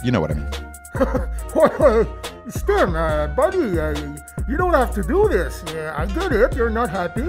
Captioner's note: nervous laughter